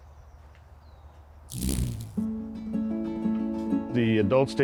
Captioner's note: wings flutter